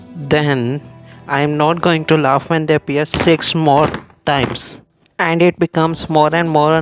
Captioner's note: slamming board